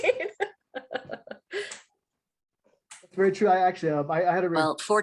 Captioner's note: laughing